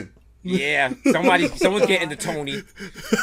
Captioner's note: laughs